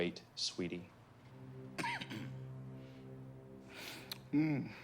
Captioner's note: solemn music; Valentine coughs